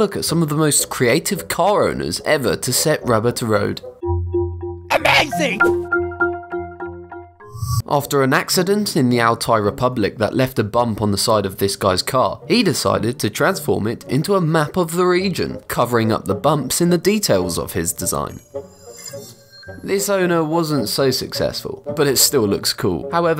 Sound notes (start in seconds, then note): 5.0 digital beeps